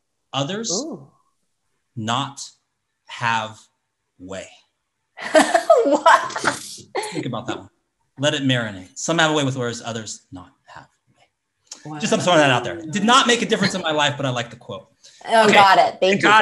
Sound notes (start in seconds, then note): 5.2 laughs